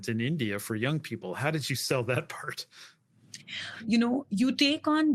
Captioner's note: laugh